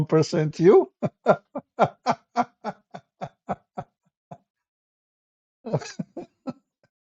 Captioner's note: Ketawa